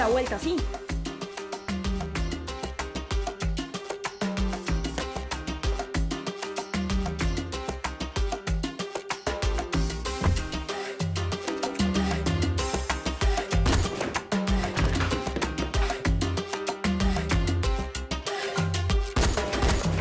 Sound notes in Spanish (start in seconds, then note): 13.6 Disparo